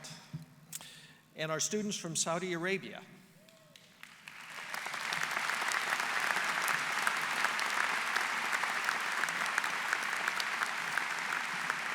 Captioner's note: applause